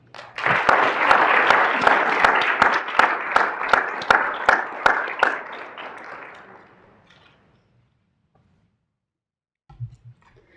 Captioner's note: applause